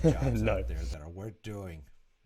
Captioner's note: laughs